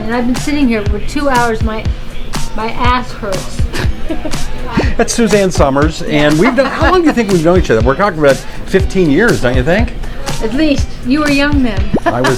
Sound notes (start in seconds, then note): 3.7 laughs; 6.4 Suzanne laughs